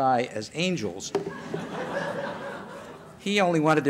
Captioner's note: laughter